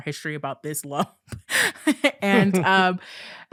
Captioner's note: chuckling